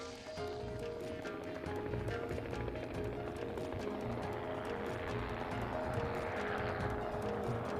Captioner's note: helicopter roaring